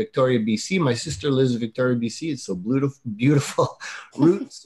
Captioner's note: laughs; giggling